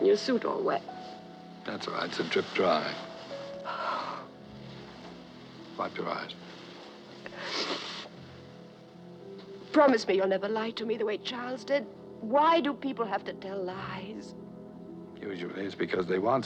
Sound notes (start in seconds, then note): 0.2 sniffling; 6.3 sighs; 7.2 sniffling